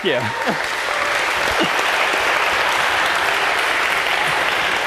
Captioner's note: applause